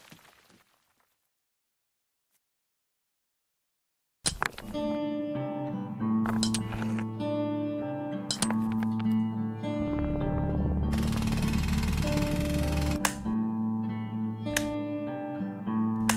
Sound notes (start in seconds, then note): 0.1 silence; 4.1 sounds of pick axe breaks the silence; 9.8 sounds of mining machinery; 12.9 sounds of flipping light switch